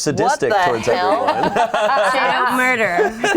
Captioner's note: group laughs